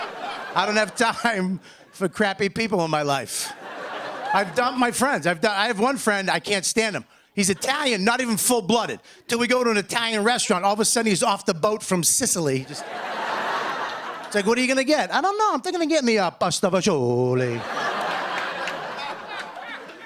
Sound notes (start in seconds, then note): 12.6 laughter; 18.3 light laughter